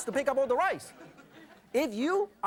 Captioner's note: audience laughs